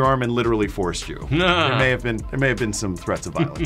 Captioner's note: laughs